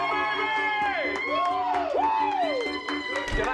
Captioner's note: cheering